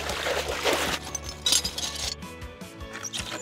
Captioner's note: splashing; cracking; squeaking